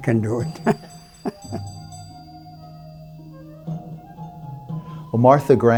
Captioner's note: laugh